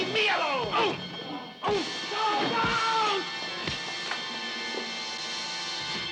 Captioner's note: blows